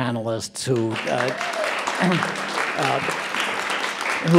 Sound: clapping

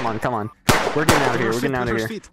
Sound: gunshots; gunshot

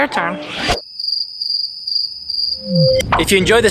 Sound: cricket chirping

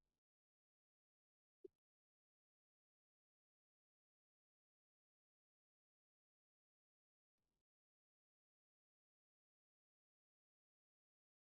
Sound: silence

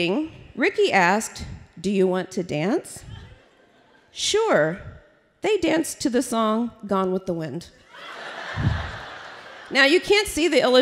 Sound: laughter

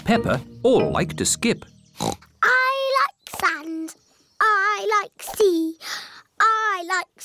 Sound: oinks

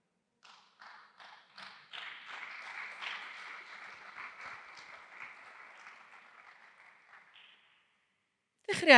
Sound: applause

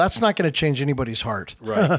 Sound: laughs

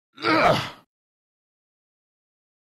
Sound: grunt

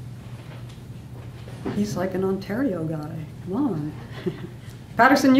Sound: laughs

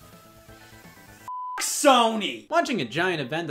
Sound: beep

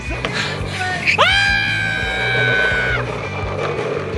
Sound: shrieking

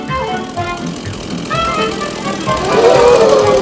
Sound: lively music; sound of chainsaw; audience gasp

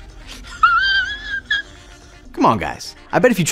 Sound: laughs

